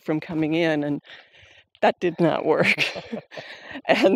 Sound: laughing lightly

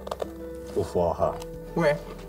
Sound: foreign language

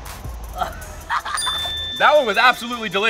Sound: laughing

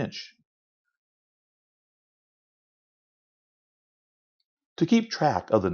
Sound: silence

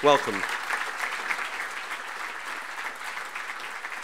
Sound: audience applauding

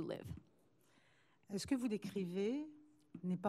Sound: speaking french

